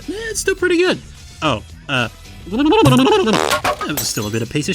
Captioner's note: violent shaking noises